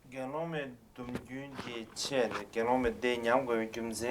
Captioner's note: non-english speech